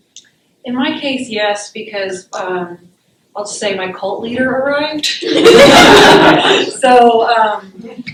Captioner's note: laughter